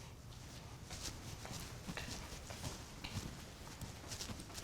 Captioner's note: footsteps approaching